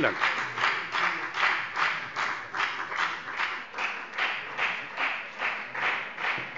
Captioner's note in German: Anhaltender Beifall bei der FDP